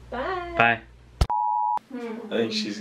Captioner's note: TV test tone